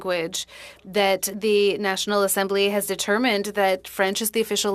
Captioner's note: speaking French